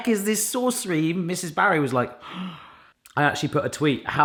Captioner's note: gasps